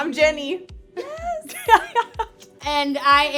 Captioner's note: laughs